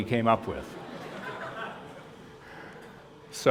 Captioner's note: laughter